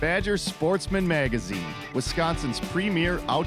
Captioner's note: voiceover